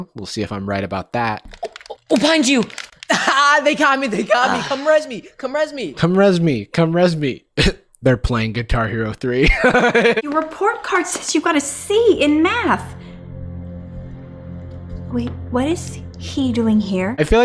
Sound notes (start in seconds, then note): 9.5 laughs; 14.9 dramatic music